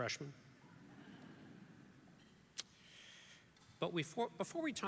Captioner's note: audience laughs